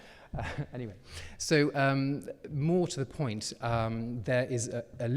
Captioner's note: chuckles